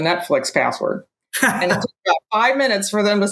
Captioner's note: laughs